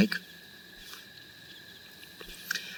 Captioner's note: crickets Chirping Continues